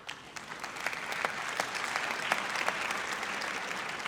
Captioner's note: audience applauds